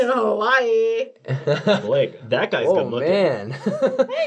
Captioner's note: laughing